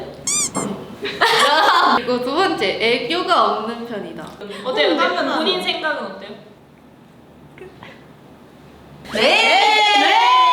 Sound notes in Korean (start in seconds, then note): 7.6 흐음